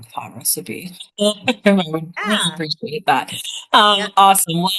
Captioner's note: laughs